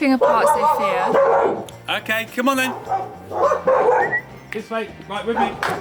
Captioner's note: dogs start barking